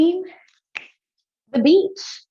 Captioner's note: fingers snap